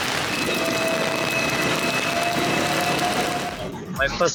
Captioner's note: tram passing